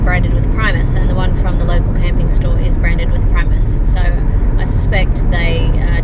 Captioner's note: none